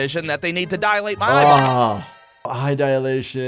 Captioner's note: button clicking